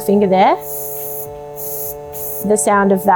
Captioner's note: air hissing